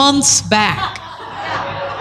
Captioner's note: laughter